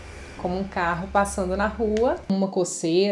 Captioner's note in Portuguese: como um carro passando na rua